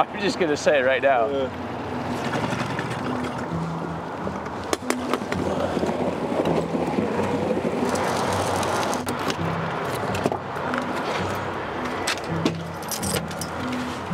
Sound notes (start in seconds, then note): 6.2 boat scrapes; 10.1 wind whistles